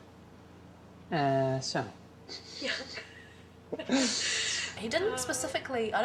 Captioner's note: speaking Chinese